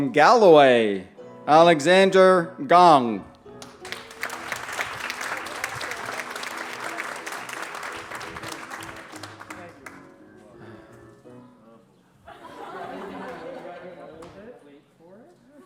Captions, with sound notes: From Galloway, Alexander Gong. [ applause ] [ laughter ]